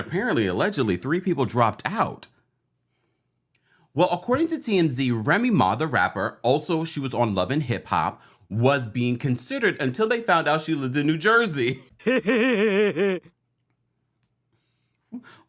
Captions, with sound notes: Apparently, allegedly, three people dropped out. Well, according to TMZ, Remy Ma, the rapper, also she was on "Love And Hip Hop" was being considered until they found out she lived in New Jersey. (AI laughs)